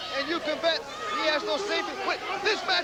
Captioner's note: crowd cheering